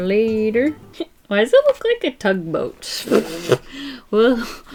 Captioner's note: laughs